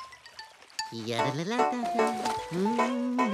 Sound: humming

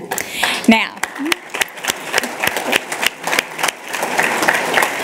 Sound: applause

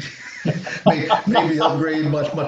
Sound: laughing

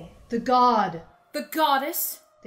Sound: sirens

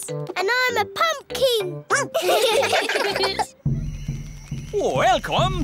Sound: all giggling; barks

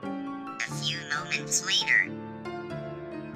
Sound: Vector voice

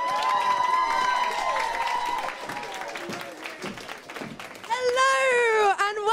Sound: applause

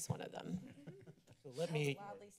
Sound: laughter

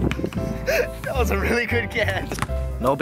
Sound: laughs

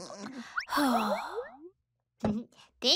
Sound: sighs

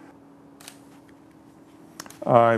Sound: shutter clicks

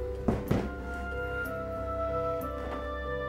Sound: dramatic music; basket thuds

